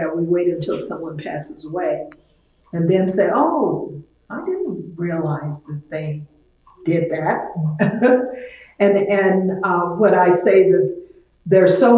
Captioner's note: laughs